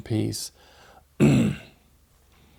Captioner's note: clears throat